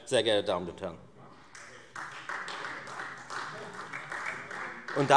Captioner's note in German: Beifall Freie Demokraten